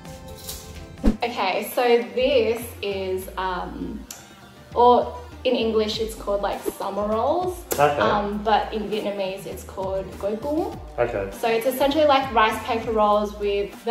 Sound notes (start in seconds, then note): none